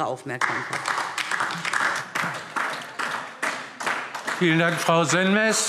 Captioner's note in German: Beifall DIE LINKE